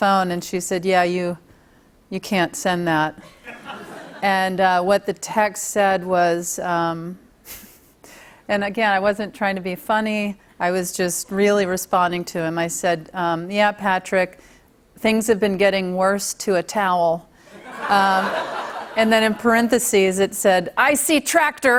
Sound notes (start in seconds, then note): 17.5 laughter